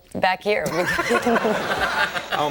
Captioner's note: everyone laughing